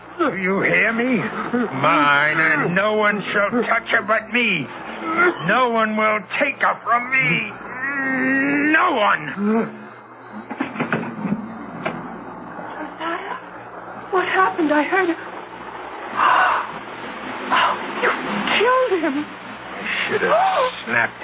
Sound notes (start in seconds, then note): 9.2 grunts; 16.4 gasps